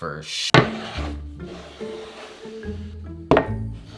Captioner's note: board sliding